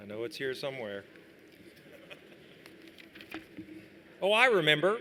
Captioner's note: laughter